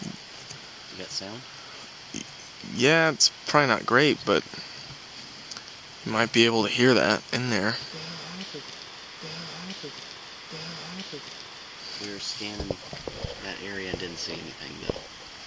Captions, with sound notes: - You got sound. - Yeah, it's probably not great, but you might be able to hear that in there. (snapping) - We were scanning that area and didn't see anything though.